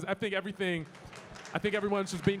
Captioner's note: audience clapping